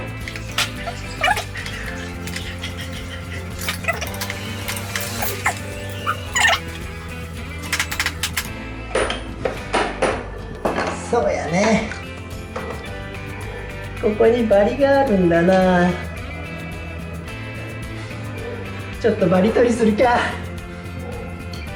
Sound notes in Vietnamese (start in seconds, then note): 19.6 cười